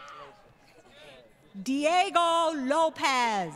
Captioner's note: crowd Cheering